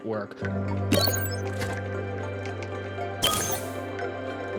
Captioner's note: adaptory music plays; liquid network opening beep; adaptory music plays; gas network opening beep